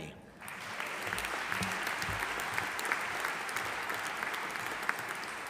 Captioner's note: audience applauding